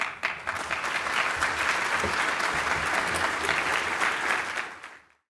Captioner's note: audience applauding